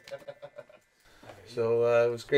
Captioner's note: laughs